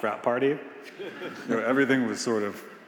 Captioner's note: attendees laughing